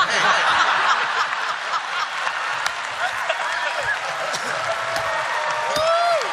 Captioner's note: laughter; applause